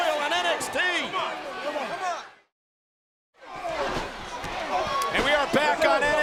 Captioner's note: crowd chattering; wrestlers yelling